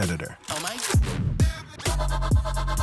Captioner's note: cocks gun